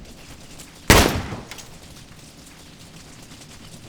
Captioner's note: gun fires